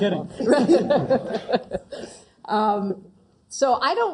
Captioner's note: laugh